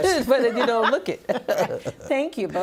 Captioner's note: laughing